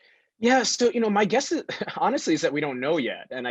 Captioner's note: laughs